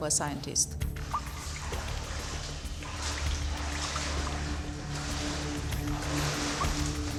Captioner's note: footsteps on water